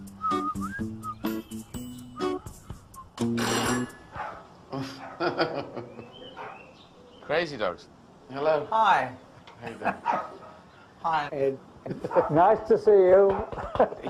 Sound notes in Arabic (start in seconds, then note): 3.5 رنين جرس الباب مع نباح الباب